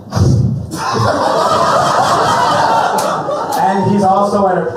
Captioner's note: laughter